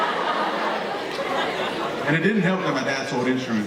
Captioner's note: audience laughing